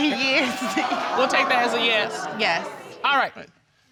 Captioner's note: audience exclaiming